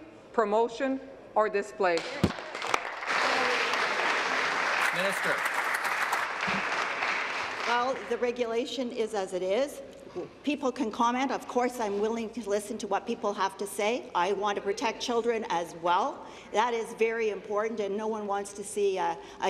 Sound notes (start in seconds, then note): 5.0 applause